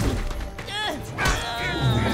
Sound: grunting

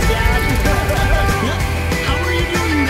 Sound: person laughs

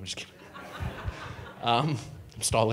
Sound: audience laughing

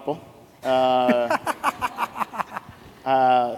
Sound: laughs

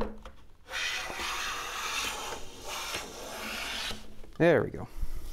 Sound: drilling

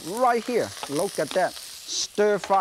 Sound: wok sizzles

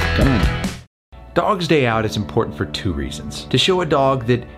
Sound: voiceover

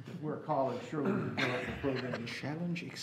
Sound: laughing

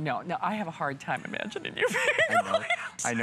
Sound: laughter; laughter

